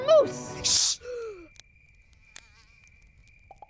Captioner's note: Blueberry gasps; insect buzzing